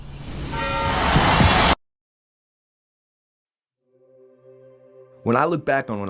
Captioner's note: air whooshes; dramatic music